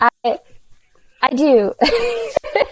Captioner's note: laughs